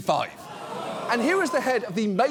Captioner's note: studio audience gasps